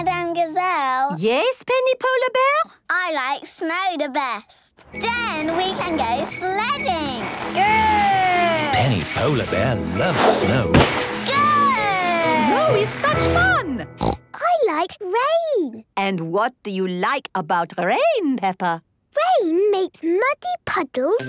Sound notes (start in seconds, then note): 14.0 snorting